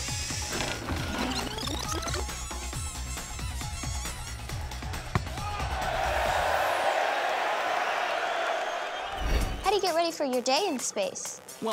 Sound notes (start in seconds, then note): 2.0 squeaking; 4.4 crowd cheering